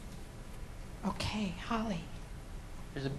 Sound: voiceover

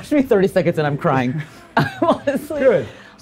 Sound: laughs

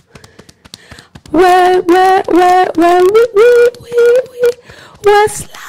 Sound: beating Chest; held back scream

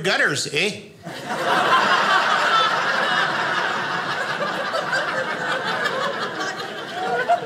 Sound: audience laughing

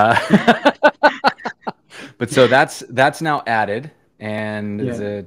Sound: laughter

